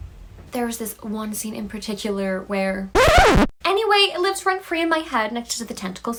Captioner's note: record scratch noises